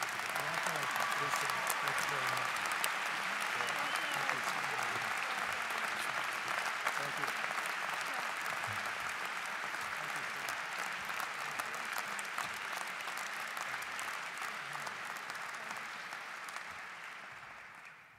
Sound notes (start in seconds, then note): 1.2 cheers and Applause